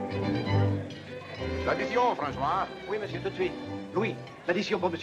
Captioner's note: speaking in foreign language